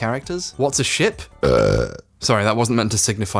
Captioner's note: belches loudly